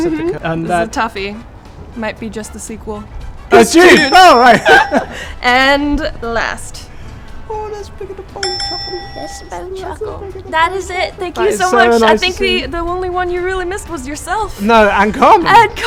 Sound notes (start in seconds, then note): 3.8 bell dings; 4.2 laughs